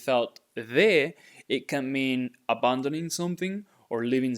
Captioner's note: speaking in Spanish